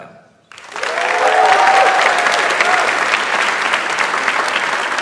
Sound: audience applauds

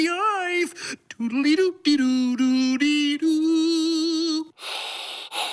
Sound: humming; heavy breathing

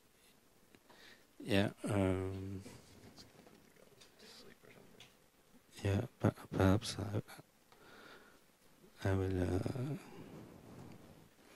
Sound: mumbles to technician

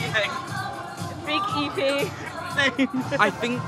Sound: laughing

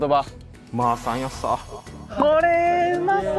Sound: okinawan dialect

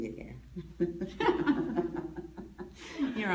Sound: both laugh

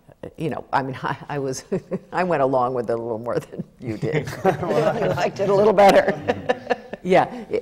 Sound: laughter

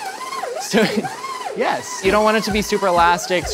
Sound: laughs

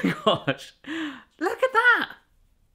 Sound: chuckling

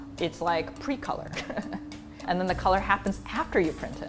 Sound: laugh

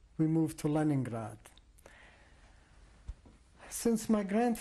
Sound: pauses for 3 seconds

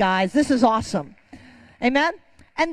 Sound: congregation clapping

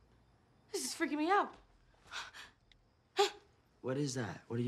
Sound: breathes sharply, grunts

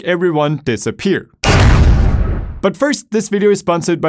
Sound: bangs

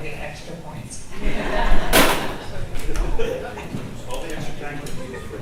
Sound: audience laughs

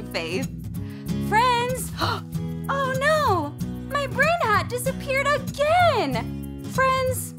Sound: gasps

